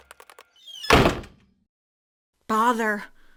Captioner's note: door slamming